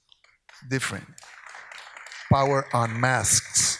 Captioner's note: audience applauds